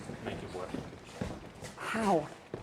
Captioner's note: footsteps